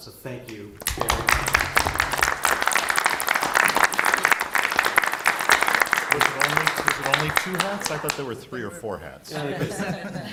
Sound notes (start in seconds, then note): 0.8 applause